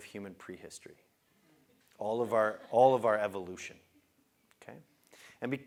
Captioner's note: laugh